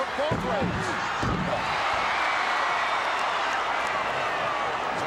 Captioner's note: audience cheering